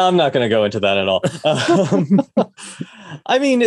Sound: both laughs

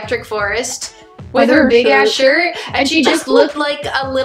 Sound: laughs

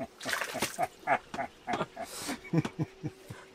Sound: laughter

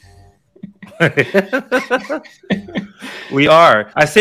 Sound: giggling

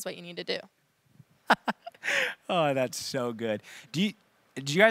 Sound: chuckles

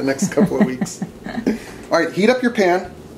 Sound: both laugh

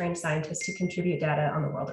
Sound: phone dings

